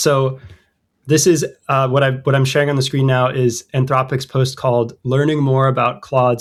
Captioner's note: uh